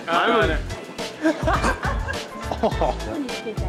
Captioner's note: laughter